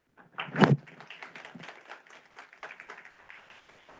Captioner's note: audience clapping